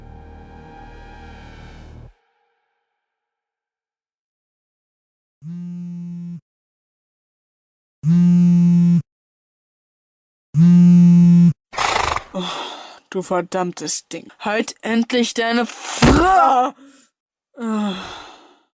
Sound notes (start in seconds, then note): 12.3 annoyed sigh; 17.6 sigh